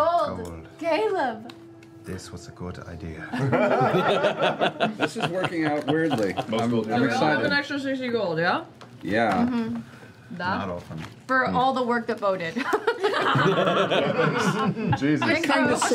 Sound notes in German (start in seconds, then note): 12.6 Lachen